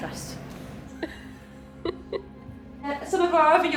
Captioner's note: laugh